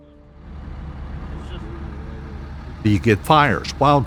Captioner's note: helicopter pilot chatter